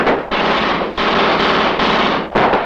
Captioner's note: soldier speaks in foreign language; gun fires; guns fire